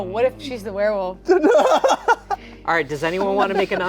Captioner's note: laughing